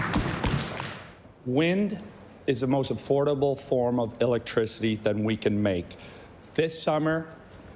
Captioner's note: applause